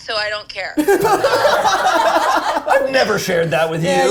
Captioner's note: all laughing